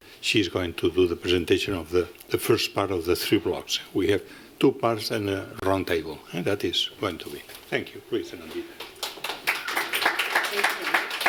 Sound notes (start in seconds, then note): 8.8 applause